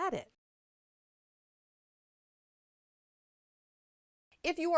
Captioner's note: no Sound Present